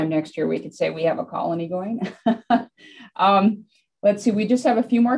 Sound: laughs

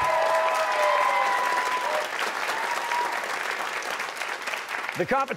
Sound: cheers and applause

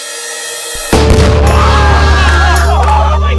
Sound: screaming

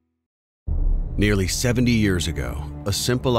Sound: voiceover

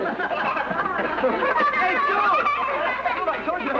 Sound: laughter

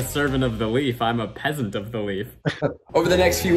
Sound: laughs

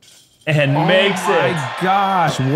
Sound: cheering

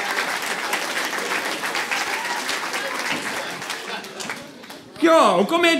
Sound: applause

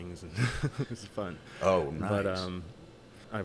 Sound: chuckling

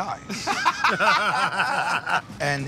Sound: laughter

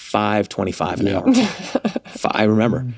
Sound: laughs

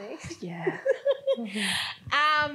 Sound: laughs

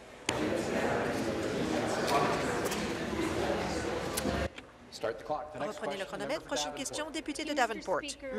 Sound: conversation din

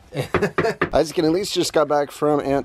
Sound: laughs

